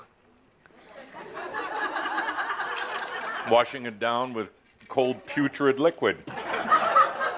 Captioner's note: laughter; more laughter as he takes a drink of soda